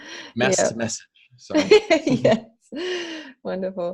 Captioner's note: giggles